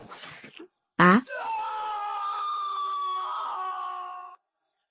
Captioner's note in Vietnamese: la hét